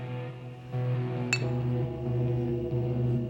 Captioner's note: bottles clink; intense music